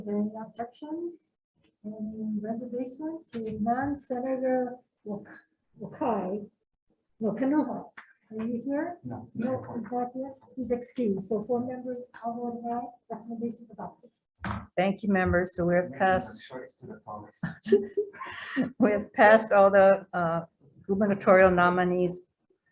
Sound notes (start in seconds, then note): 17.1 speaks distantly; 17.4 laughing